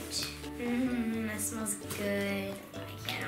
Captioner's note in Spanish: gemidos